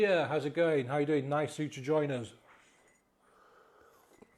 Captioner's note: sips drink